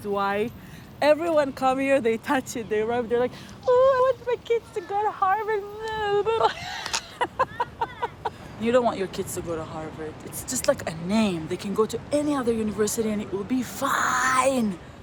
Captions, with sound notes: Why? Everyone come here, they touch it. They rub. They're like, oh, I want my kids to go to Harvard. [laughing] You don't want your kids to go to Harvard. It's just like a name. They can go to any other university and it will be fine.